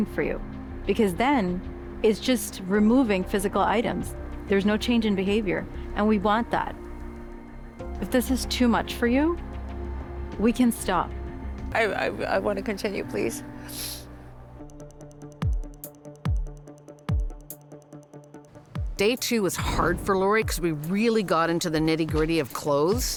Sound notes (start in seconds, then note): 13.6 sniffles